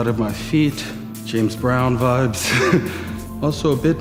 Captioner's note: laughs